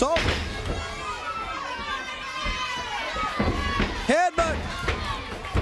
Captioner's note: crowd cheering